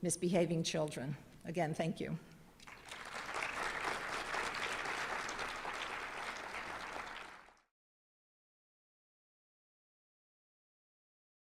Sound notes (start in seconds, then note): 2.6 applaud